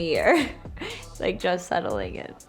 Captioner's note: laughs